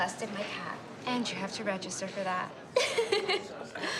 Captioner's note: giggles